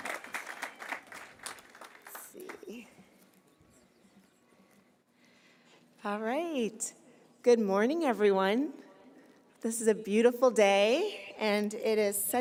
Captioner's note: cheers and applause